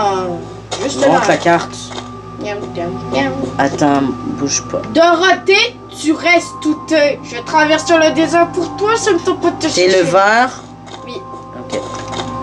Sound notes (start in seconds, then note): 2.3 humming